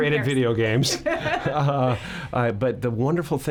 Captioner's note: laughing